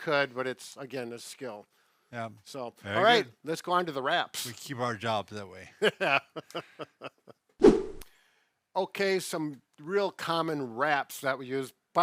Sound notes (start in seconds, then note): 5.8 laughing; 7.6 air whooshing